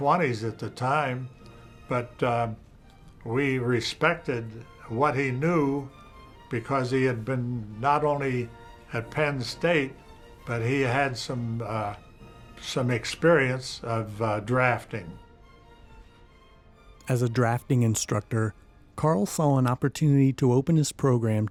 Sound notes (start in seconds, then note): 17.0 voiceover